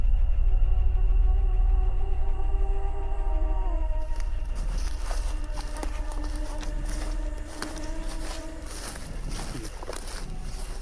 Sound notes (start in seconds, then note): 0.2 ominous music; 5.9 footsteps